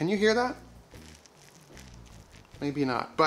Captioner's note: squishes